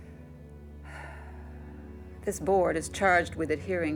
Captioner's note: sighs